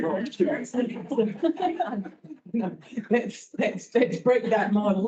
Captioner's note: all laugh